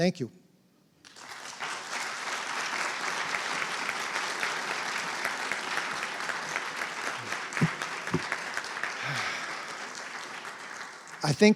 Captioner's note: applause